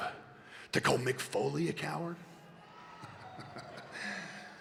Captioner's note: laughs